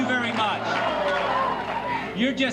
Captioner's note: audience cheering